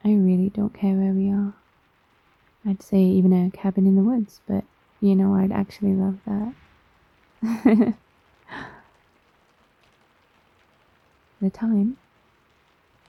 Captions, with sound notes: I really don't care where we are I'd say even a cabin in the woods but you know I'd actually love that *laughs* the time?